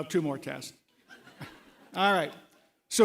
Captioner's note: laughter